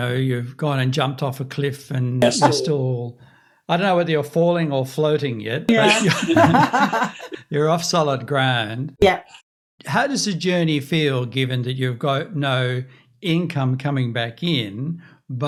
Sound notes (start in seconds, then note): 5.7 laugh